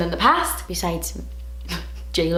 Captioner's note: she laughs